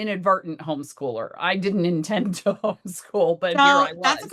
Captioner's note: chuckles